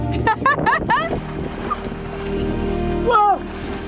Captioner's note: laughter